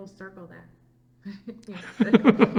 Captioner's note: laughs